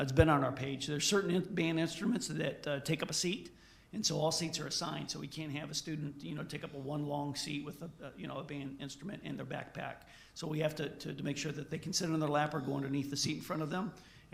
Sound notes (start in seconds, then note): none